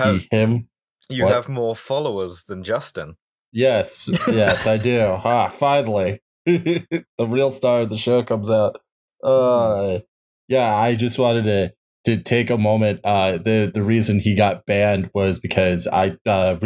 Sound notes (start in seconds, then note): 6.4 laughter